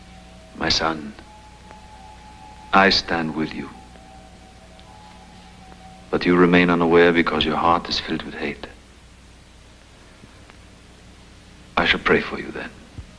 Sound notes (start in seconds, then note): none